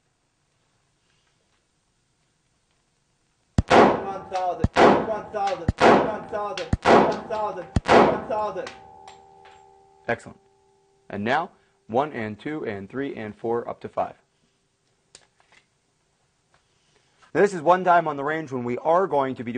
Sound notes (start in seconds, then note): 0.5 gunshot